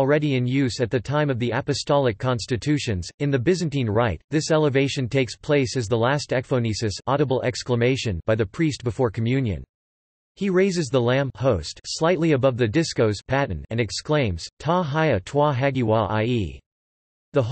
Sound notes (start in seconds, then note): 7.1 audible exclamation